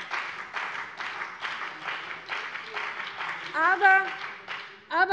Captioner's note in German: Beifall bei der CDU und dem BÜNDNIS 90/DIE GRÜNEN